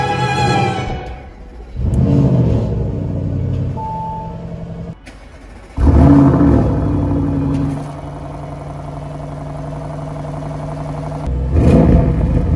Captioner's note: cold start sound; accelerator strokes